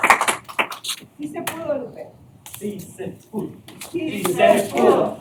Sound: indistinct crowd chanting

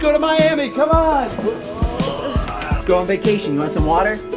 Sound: Rocky groans

